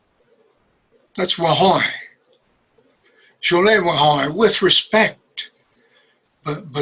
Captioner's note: speaks in Osage